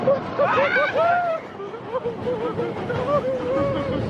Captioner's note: screams